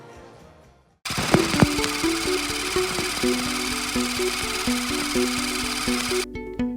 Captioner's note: projector clicking; upbeat music